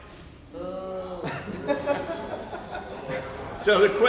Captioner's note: laughter